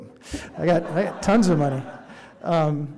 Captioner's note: audience laughing